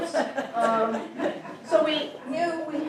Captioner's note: audience laughing